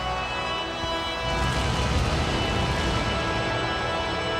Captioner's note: flames roaring